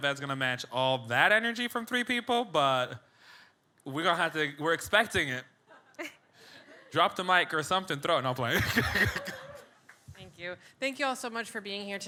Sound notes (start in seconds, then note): 8.5 laughs